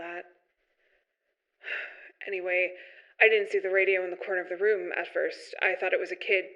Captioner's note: sigh